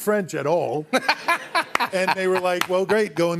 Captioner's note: laughs